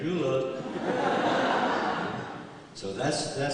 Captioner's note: laughter